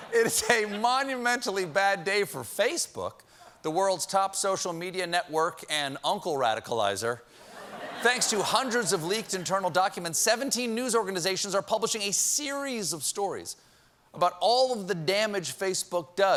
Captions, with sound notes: I DON'T KNOW. ( LAUGHTER ) IT IS A MONUMENTALLY BAD DAY FOR FACEBOOK, THE WORLD'S TOP SOCIAL MEDIA NETWORK AND UNCLE RADICALIZER. THANKS TO HUNDREDS OF LEAKED INTERNAL DOCUMENTS, 17 NEWS ORGANIZATIONS ARE PUBLISHING A SERIES OF STORIES ABOUT ALL OF